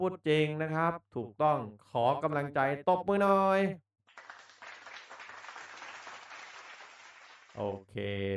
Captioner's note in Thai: ปรบมือ